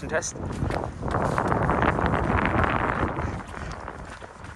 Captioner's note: wind blowing